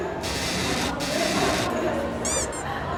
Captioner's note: creak